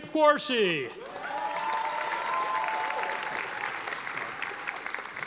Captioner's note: audience applauding